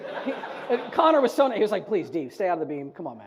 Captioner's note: audience laughs